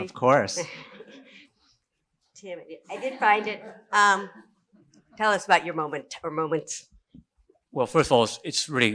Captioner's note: laughs